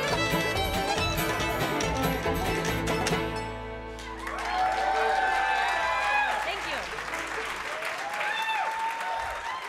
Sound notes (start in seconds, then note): 3.8 audience applauding